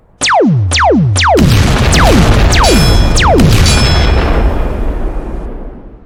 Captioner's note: gun firing; explosions booming